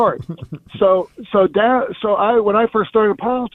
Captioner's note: chuckles